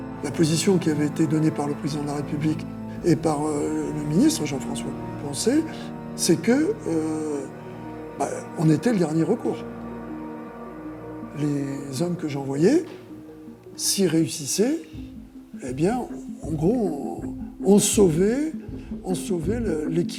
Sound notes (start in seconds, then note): 0.0 speaking in French